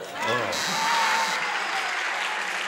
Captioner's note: buzzer; applause